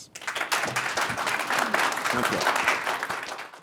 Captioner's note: audience clapping